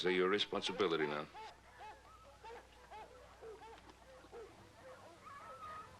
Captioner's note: barking continues